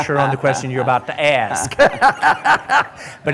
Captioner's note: laughter